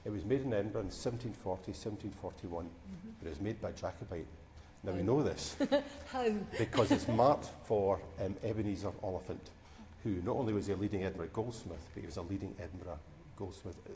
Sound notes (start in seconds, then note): 6.5 laughs